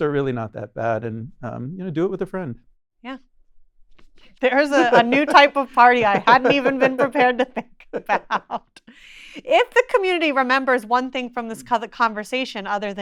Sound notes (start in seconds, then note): 8.8 person laughing